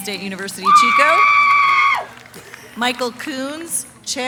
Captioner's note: cheering